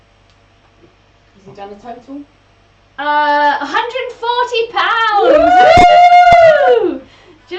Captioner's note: they cheer